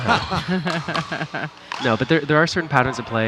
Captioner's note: laughing